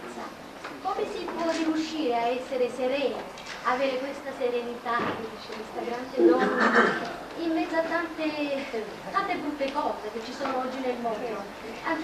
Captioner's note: italian; italian